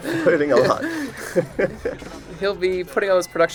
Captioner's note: laughter